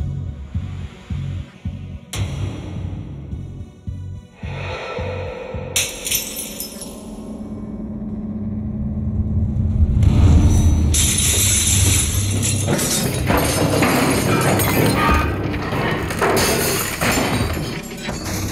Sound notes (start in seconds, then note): 6.0 bottle shatters; 10.9 glass shattering and wood cracking echoing